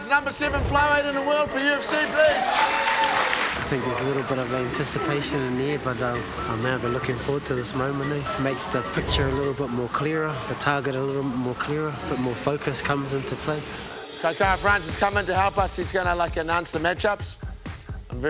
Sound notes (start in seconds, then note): 1.5 clapping